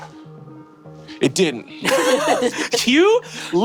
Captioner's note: players laughing